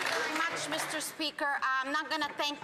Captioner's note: some Applause